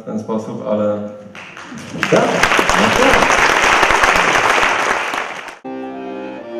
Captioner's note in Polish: aplauz